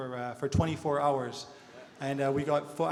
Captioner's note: audience laughter